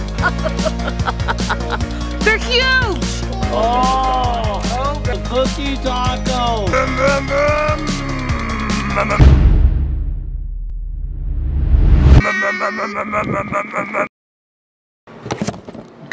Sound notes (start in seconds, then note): 0.2 laughing; 6.5 imitating car revving; 12.2 imitating car revving